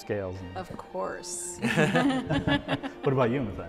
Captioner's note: laughter